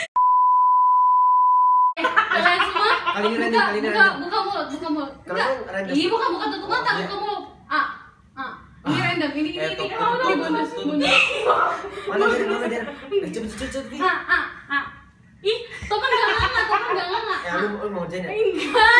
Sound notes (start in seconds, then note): 2.1 laugh; 2.7 talking gibberish